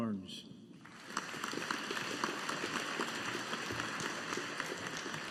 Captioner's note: audience applauding